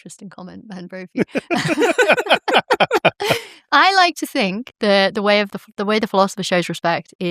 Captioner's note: laughter